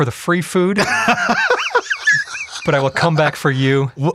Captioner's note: laughs loudly